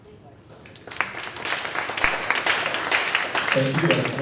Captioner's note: audience clapping